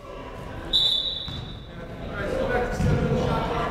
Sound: whistle blowing

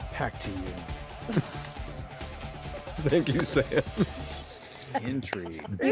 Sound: laughing

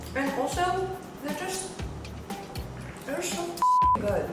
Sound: beep

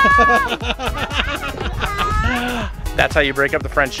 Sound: laughter

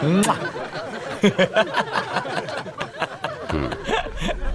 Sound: all laughs

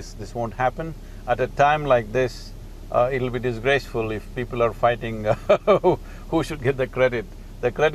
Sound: laughs

